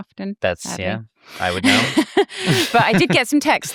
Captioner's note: both laugh